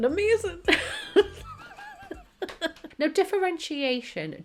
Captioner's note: laughing